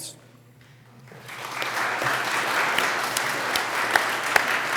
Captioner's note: applause